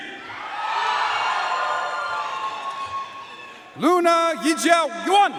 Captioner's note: audience cheering and applauding